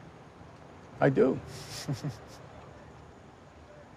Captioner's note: chuckles